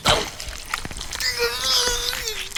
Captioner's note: groans